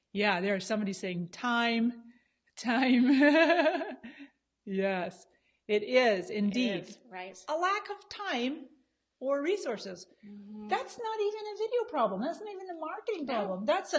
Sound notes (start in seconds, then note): 2.9 laughs